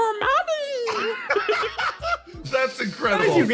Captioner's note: laugh